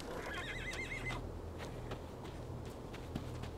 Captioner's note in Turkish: At kişneme sesi